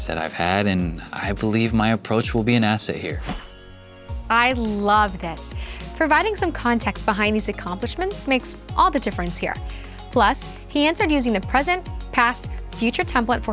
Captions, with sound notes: that I've had, and I believe my approach will be an asset here. [bell dings] - I love this. Providing some context behind these accomplishments makes all the difference here. Plus, he answered using the present, past, future template